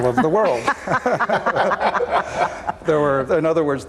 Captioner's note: all laughing